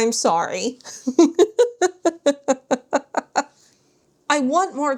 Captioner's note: laughter